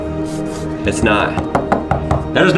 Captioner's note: fingers scratching; fingers knocking